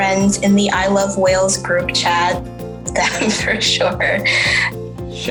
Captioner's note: laughing